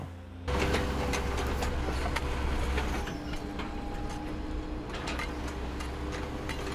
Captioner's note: noise from digger